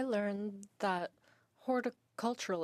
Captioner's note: speaking in French